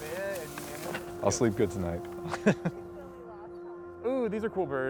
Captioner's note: laughs